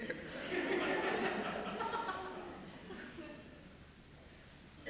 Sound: laughter

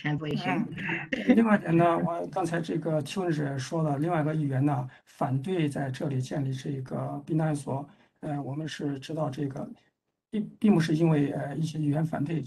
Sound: speaks in Mandarin

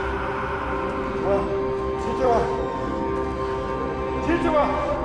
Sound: man shouting in foreign language

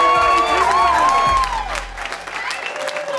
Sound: cheering

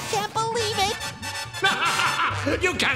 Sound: laughing

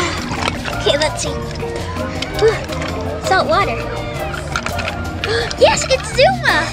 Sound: gasps

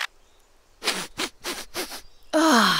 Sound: sniffing; sigh

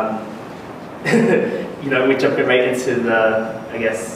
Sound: laughs

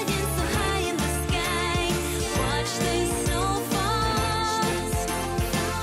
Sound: none

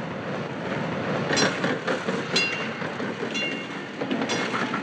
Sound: trolley clangs

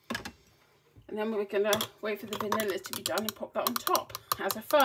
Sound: straw tapping against glass

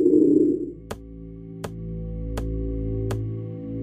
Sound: tap..!

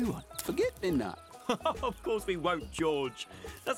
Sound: laughing

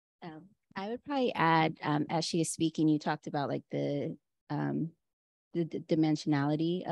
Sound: Chineze

